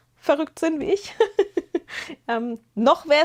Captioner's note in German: gelächter